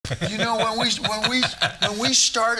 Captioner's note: all chuckling